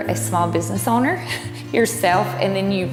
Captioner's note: chuckle